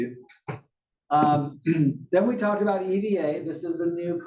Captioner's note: cough